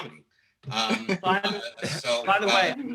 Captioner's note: laughter